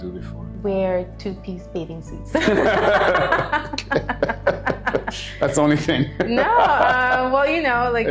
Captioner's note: laughing